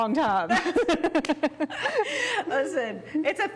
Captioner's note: laugh